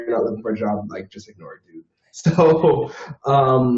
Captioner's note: laughs